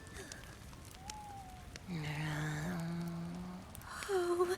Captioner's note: Strap makes a noncommittal, mostly sad noise